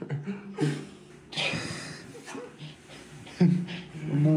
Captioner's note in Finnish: naurahduksia